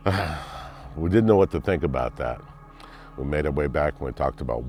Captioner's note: sighs